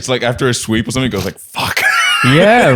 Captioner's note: laughs